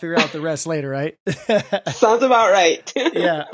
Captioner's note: chuckles